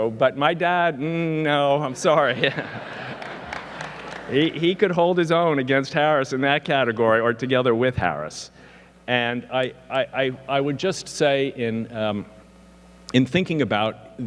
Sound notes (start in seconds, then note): 1.9 audience laughing; 2.1 laughs